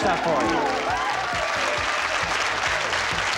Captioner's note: applause; whimsical harp music